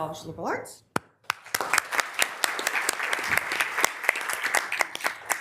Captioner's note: members applauding